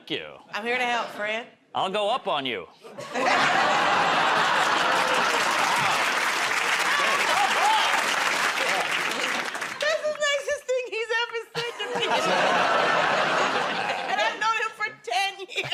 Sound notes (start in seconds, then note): 2.9 laughter; 7.2 applause